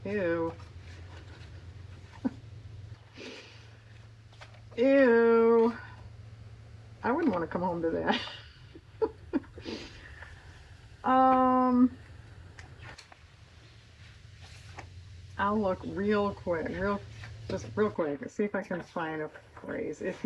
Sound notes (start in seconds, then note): 3.1 laughs; 12.1 laughs